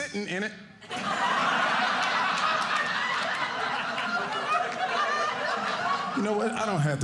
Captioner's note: audience laughing